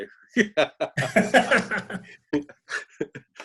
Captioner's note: laughing